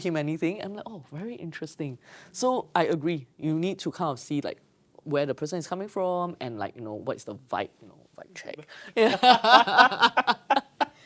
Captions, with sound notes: I'm like, oh, very interesting. So I agree. You need to kind of see like where the person is coming from and like, you know, what's the vibe? You know, vibe check. [LAUGHTER]